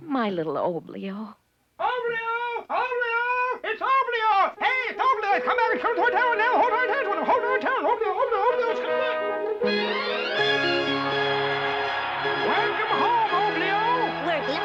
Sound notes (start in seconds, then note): 5.7 excitedly shouting; 10.1 crowd cheering; 10.1 grand orchestral music